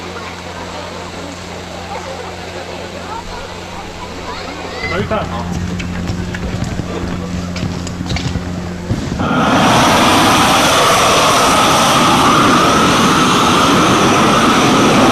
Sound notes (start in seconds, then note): 5.3 speaking in foreign language; 9.6 flare rushes